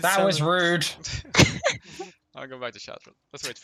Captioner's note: haha